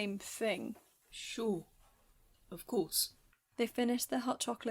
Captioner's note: kitchen sounds fade